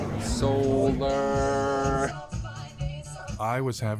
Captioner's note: Gülme